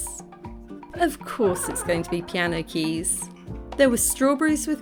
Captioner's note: mum laughing